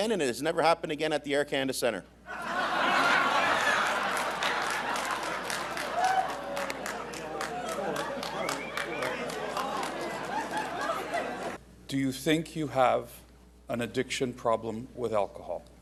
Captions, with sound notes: and it has never happened again at the Air Canada Centre. [Laughter] Do you think you have an addiction problem with alcohol?